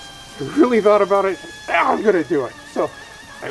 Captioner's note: indiscernible excited noise